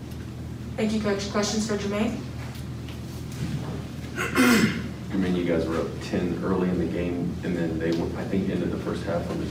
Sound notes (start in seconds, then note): 4.1 clears throat